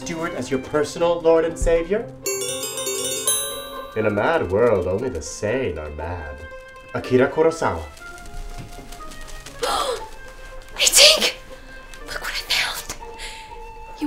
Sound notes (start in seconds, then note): 2.2 tink bells; 7.6 wings fluttering; 9.6 Lily gasps